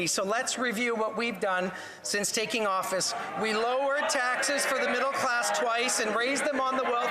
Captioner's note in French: voix de l'interprète